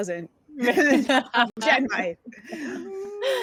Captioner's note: laughing